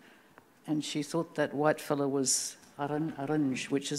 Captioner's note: speaking Anmatyerr